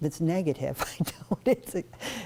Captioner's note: laughter